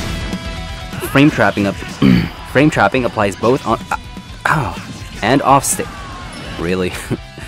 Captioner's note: clears throat